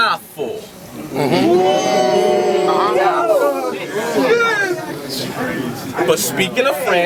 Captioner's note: crowd Reaction